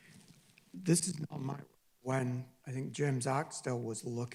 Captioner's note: distorted audio